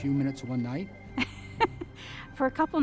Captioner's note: laughs